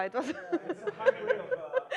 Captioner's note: laughing